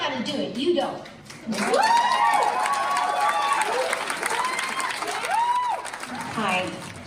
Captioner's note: audience applauds; audience cheers